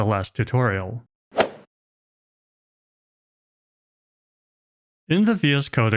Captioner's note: golf ball hit sound effect